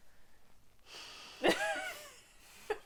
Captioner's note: weary sigh